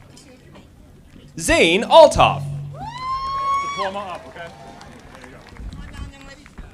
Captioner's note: audience applauding